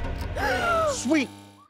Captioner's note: girls gasp